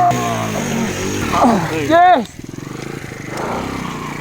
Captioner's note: everyone grunting